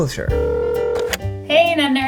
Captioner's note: phone ringing